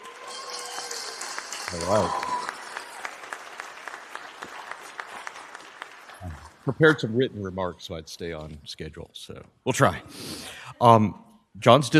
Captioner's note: applause